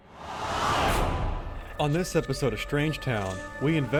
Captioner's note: voiceover